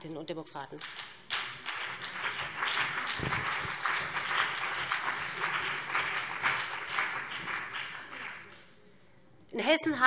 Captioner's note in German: Beifall BÜNDNIS 90/DIE GRÜNEN und vereinzelt CDU